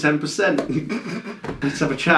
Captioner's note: laughs